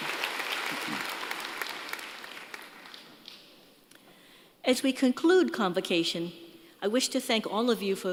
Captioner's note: applause